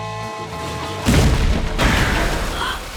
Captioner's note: gasping